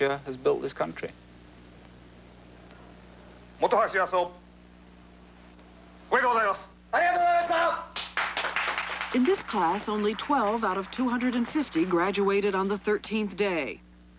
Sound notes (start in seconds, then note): 3.3 speaking Japanese; 7.9 applause